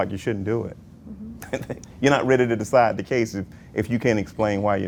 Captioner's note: laughs